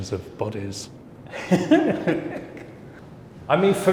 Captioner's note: laughing